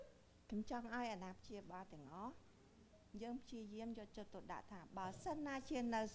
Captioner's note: speaking in foreign language